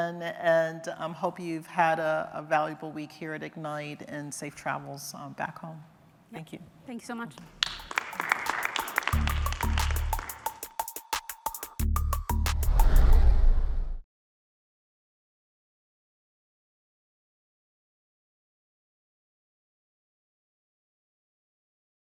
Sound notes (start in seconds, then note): 14.6 applause